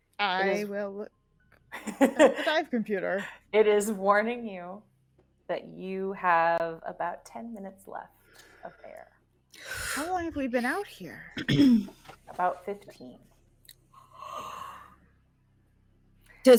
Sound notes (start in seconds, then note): 1.8 person giggling; 9.6 deep exhaling; 14.0 deep inhaling